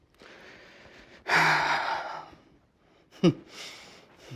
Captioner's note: Tom sighs; Tom laughs